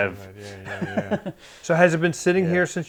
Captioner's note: chuckling